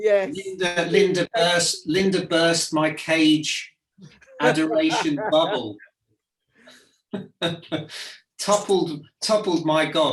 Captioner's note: laugh